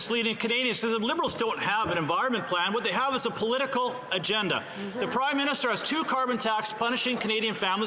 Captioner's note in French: voix de l'interprète